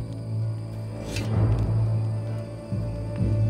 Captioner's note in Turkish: Kılıç - Çelik sesi